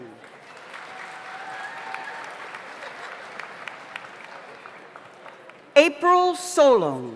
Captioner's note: audience applauds; audience cheers